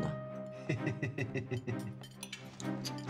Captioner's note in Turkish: Gülüyor